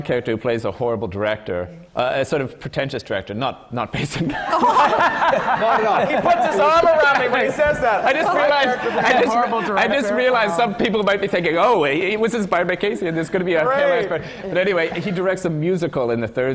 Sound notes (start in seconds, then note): 4.3 much laughter from the panel